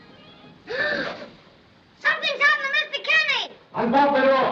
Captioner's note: gasps